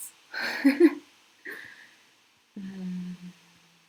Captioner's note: laughs